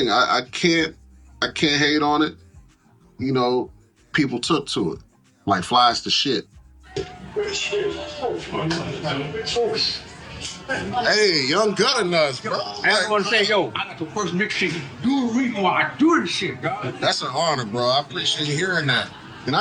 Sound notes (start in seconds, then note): 7.0 background bar noise